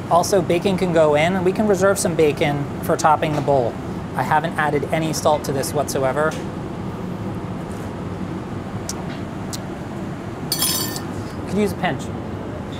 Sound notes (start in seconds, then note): 8.2 tongue popping; 10.5 spoon clattering